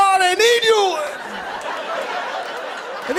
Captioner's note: laughter